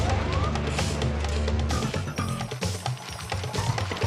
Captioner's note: machines whirring